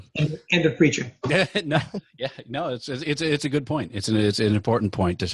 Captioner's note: laughing